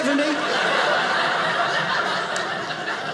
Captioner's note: audience laughing